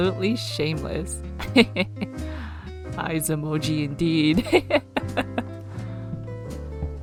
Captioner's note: laughs